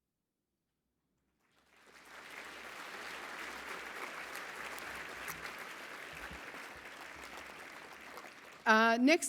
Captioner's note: applause